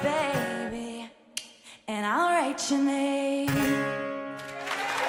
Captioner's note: clicks tongue; cheering and applause